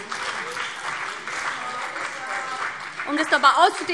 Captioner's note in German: Beifall BÜNDNIS 90/DIE GRÜNEN und CDU - Zurufe DIE LINKE